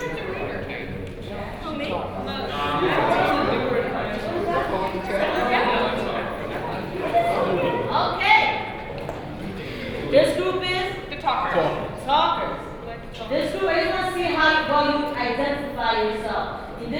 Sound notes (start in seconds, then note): 4.9 students talk and laugh